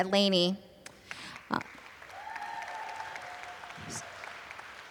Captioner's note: applause